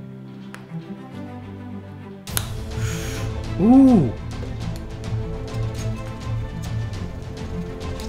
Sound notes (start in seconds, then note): 2.3 click; 2.7 breathes in sharply